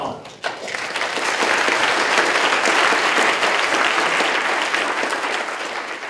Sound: clapping

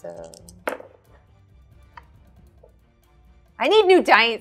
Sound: dice thudding

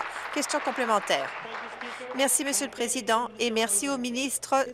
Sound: applause

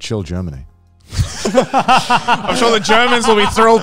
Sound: all laughing

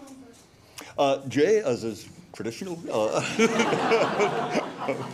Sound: laughing

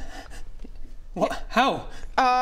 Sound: raspy breathes

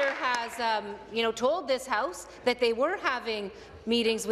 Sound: applause

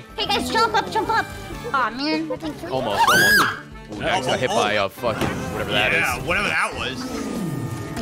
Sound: screams

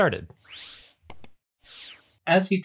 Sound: whooshing sound

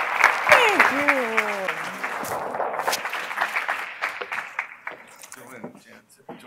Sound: applause

